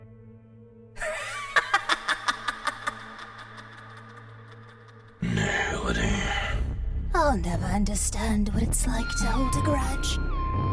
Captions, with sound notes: *spooky laughter* Nihility... I'll never understand what it's like to hold a grudge.